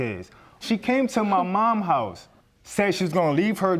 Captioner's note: scoffs